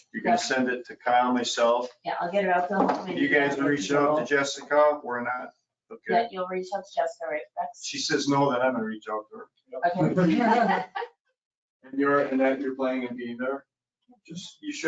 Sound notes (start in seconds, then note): 9.8 laughing